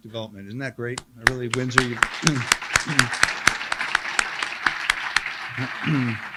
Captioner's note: applauds with crowd